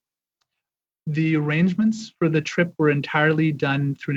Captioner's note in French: voix de l'interprète